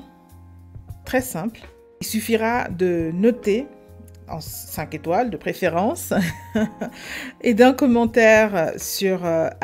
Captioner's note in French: rires